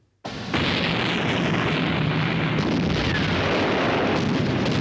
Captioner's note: cannons booming